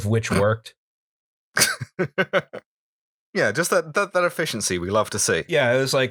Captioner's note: laughter